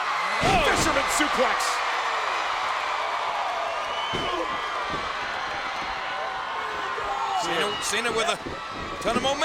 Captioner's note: applause